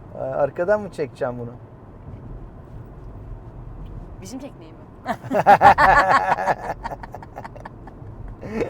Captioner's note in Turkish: kahkaha